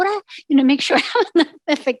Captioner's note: laughing